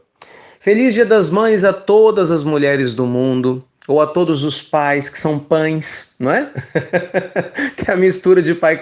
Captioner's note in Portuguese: risos